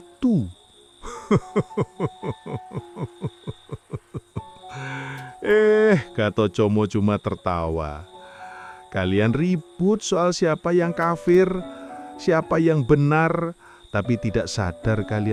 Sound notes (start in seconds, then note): 1.0 laughs